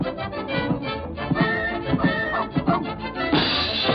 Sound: dog barks

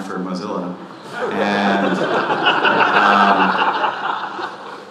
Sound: audience laughing

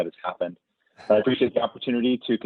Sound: chuckles

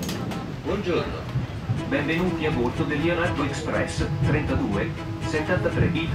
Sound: announcements in foreign language over intercom

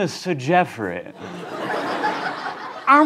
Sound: laughter

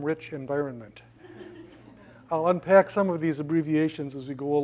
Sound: laugh

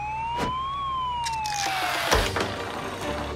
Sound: SFX: Sound of siren

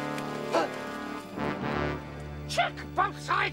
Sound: gasping

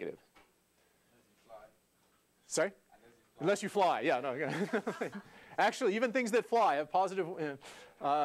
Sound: laugh

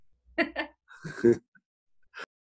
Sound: laughing

